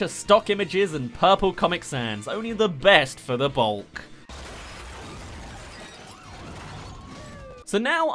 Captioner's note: cars crashing